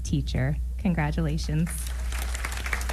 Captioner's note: applause